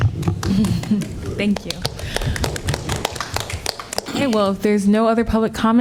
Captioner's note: applause